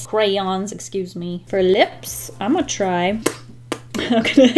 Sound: smacks lips

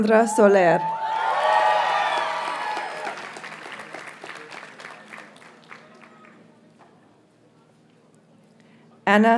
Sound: audience cheers and applauds

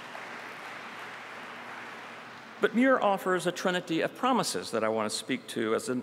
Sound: applause

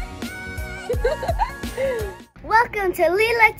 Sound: giggling sound

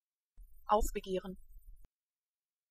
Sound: fast Pronunciation

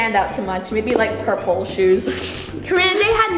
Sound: scoffs

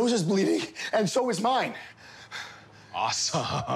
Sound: gasping; laughing

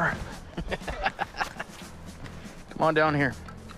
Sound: laughing

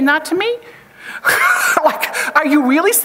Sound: chuckles

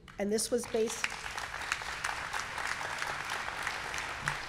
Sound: audience clapping

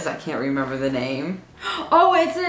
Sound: gasps

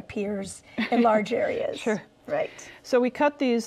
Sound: chuckles

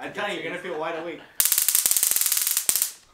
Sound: zappy sounds

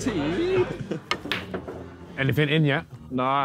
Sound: pool balls clanging

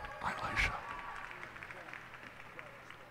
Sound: cheers and applause

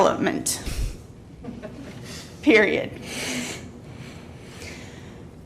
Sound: laughter

